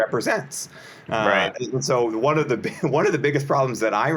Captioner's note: chuckles